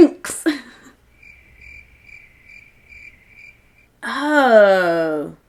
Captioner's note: crickets chirping